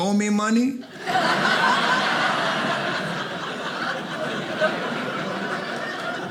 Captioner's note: audience laughing